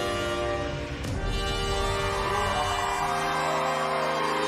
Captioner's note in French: wolf cry